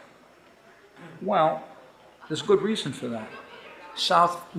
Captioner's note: audience laughing